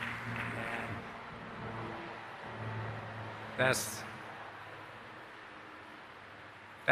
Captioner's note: airplane